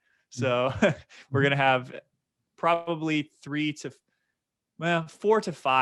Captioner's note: chuckling